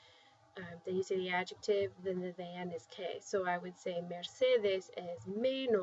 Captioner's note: spanish